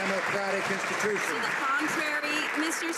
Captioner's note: some Applause